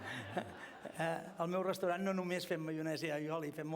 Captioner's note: non-english speech